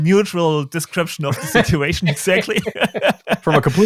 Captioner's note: laughing